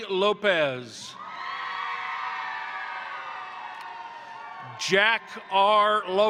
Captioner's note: crowd cheering; crowd applauding